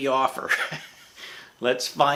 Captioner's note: chuckling